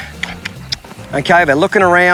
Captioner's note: mouth clicking